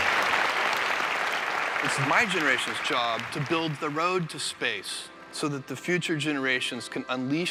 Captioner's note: applause